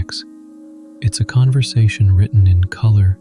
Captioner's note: gentle, enchanted tone